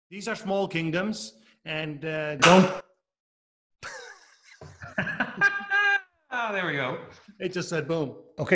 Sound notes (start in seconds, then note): 2.6 mild explosion; 3.8 laughing; 3.8 laughs